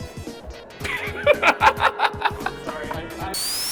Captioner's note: laughs